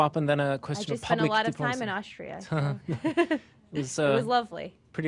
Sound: laughter

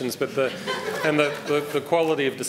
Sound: laughter

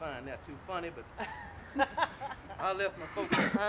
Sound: laughter

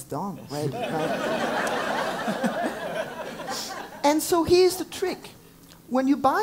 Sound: laugh

